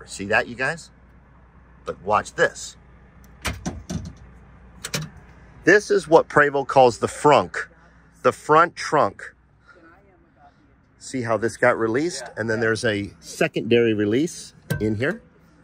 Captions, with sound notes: See that, you guys? But watch this. (latch clicking) This is what Prevost calls the frunk, the front trunk. See how this got released? And then there's a secondary release in here.